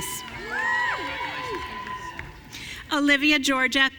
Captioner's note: audience cheering